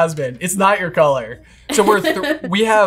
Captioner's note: laughing